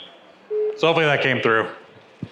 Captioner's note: electronic Voice; dial tone beeping